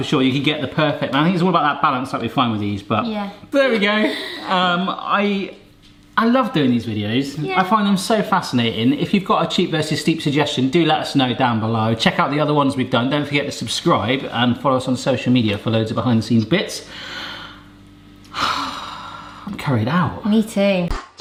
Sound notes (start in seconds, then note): 18.3 sighs